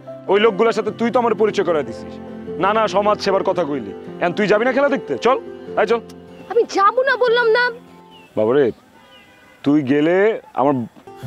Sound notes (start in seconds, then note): none